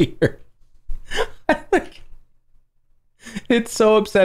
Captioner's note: laughter